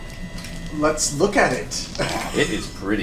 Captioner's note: laughs